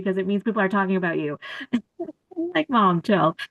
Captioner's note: laughter